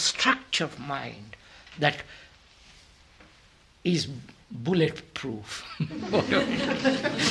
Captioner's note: laughter